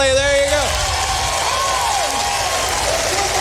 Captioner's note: applause